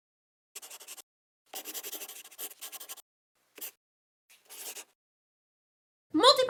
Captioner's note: the sound of a pen scratching